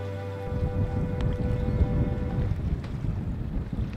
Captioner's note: wind blows